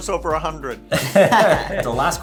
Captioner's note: all laugh